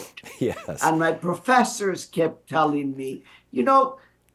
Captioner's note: laughs